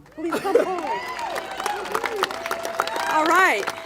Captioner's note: congregation applaud